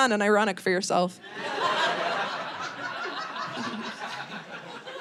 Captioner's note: audience laughing